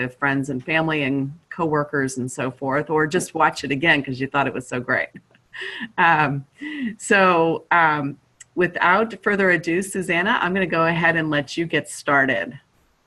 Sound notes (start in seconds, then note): 5.6 chuckling